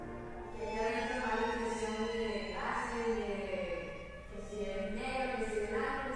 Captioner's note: speaking spanish